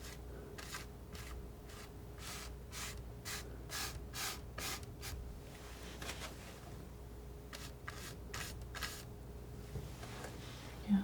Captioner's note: scratching